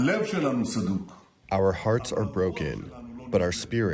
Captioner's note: through translator